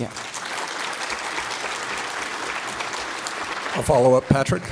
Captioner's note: applause